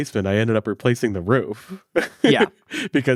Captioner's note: laughs